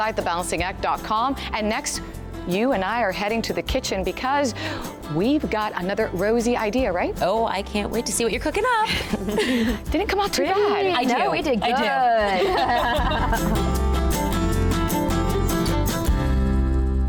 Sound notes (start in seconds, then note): 8.8 chuckling; 12.3 laughing